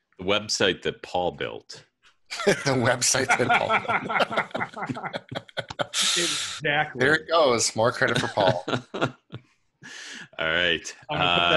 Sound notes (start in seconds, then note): 4.6 laughter